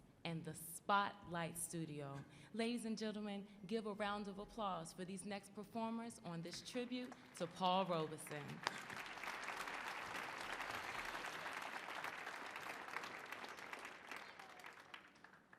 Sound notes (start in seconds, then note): 8.2 audience applauding